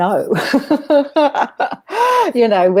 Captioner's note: both laughing